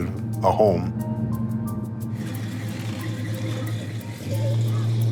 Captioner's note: engine rumbling